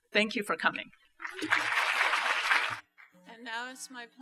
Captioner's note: applause